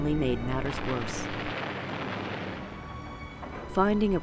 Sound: bombs exploding

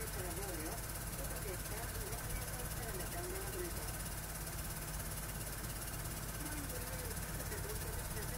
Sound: compressor sound

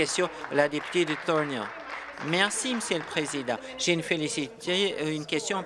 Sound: applause

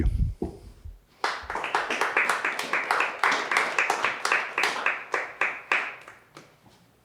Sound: applause

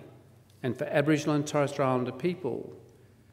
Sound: foreign word spoken

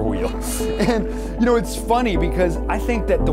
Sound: laughs

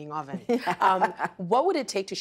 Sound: laughing

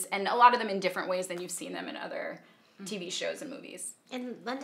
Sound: none

